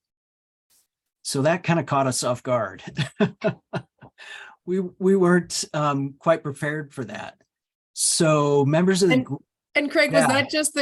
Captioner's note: laughs